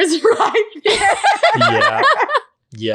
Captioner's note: laughing